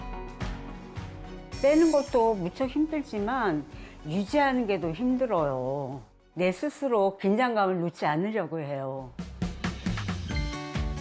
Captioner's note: voiceover